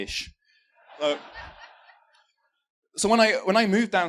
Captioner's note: laughter